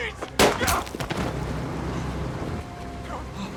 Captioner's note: gunshot